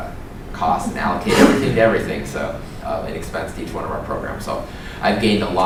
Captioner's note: laugh